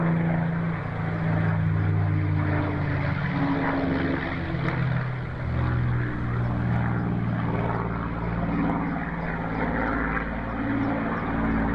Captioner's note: Spitfire engine